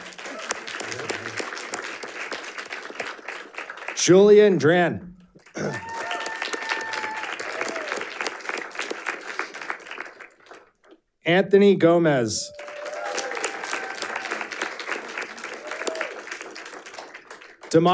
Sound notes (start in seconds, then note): 0.0 audience applauding; 5.4 audience cheering and applauding; 12.4 audience cheering and applauding